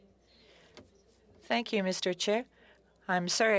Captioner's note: speaking French